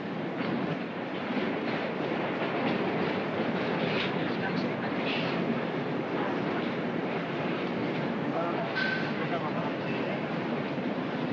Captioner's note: subway car rumbles